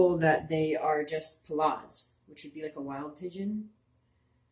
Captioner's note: speaking Abenaki Language